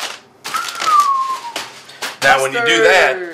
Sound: whistles

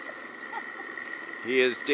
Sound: man laughs

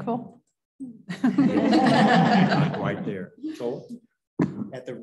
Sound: laughter

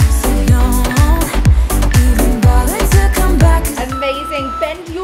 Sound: timer beeps

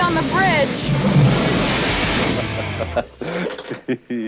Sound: laugh

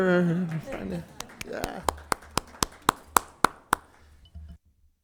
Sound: all applauding

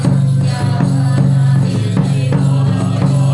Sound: chanting in chorus

